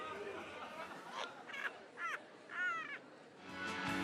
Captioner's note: muffled chuckling